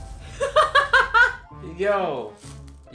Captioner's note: laughs